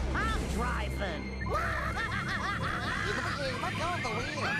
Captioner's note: screaming